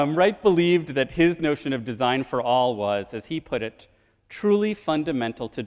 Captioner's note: none